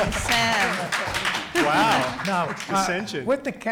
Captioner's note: audience claps